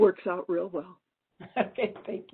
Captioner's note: brief laughter